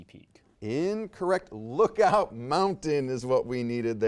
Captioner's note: laughs